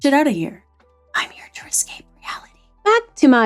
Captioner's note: whispering